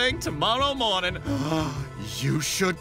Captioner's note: gasp